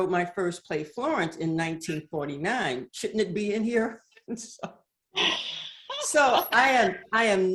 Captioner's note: laughs